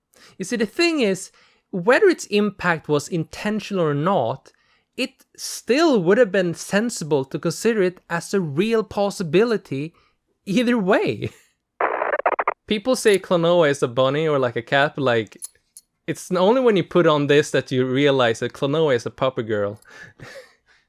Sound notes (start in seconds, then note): 15.3 clinking metal